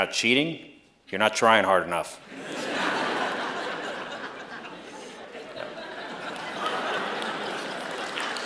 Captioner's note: laughter; applause